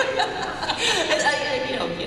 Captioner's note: laughter